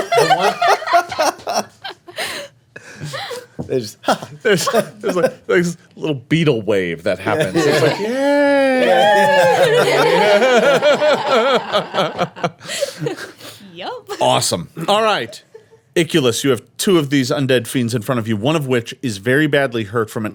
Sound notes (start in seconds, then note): 0.0 laughing; 7.8 cheering; 9.4 laughing